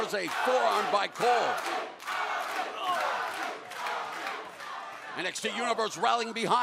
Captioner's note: crowd cheering